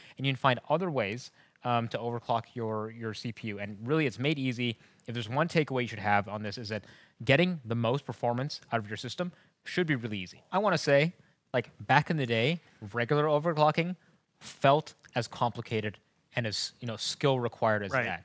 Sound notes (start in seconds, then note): none